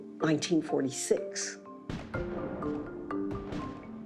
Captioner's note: gunshots